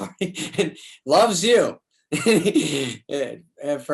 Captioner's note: David laughs